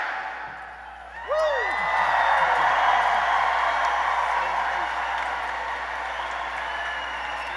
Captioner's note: cheering